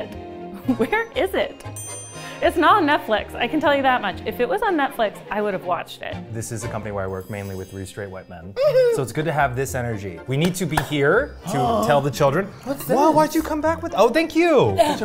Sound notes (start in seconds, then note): 8.6 giggling; 11.5 gasping